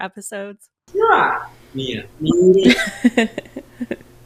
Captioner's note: in Thai